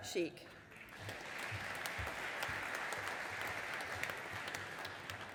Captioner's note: audience applauding